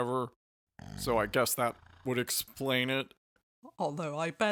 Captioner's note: Luke snores